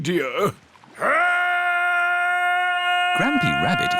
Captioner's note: shouting